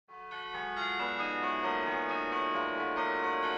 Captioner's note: church bells ringing